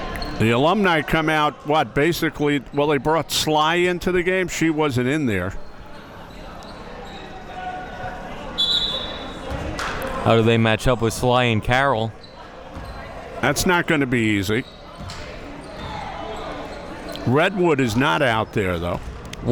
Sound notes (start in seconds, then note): 8.5 whistle being blown